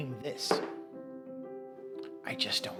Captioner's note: jar thuds